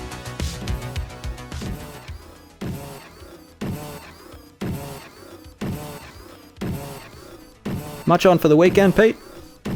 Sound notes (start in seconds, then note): 0.0 upbeat electronic music; 2.2 robotic footsteps